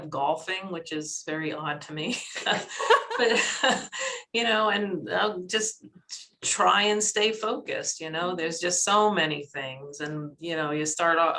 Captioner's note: laughter